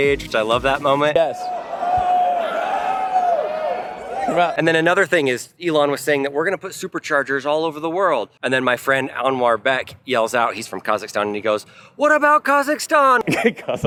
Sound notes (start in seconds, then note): 1.2 audience cheers